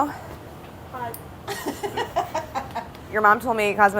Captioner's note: laughing